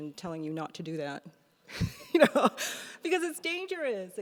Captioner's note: laughs